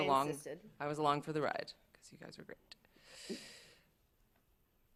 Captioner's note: whispers